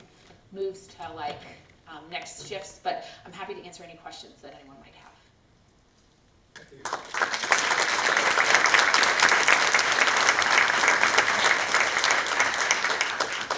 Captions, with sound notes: moves to like next shifts, but I'm happy to answer any questions that anyone might have. (audience applauds)